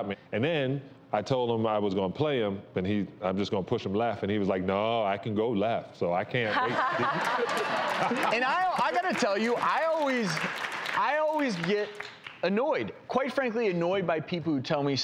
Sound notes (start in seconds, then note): 6.6 laughing